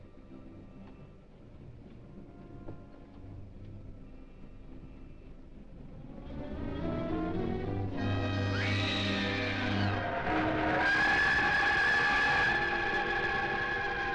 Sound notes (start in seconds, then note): 5.8 grim dramatic music; 8.6 Nora screaming; 10.8 train horn blowing